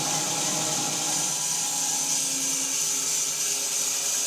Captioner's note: saw buzzing continues